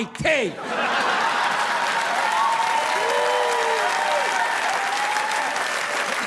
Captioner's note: audience laughing; audience applauding